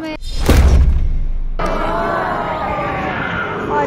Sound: crowd gasps

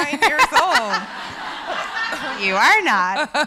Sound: laughs

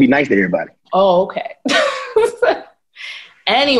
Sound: laughing

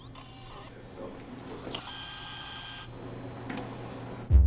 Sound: machine clicking

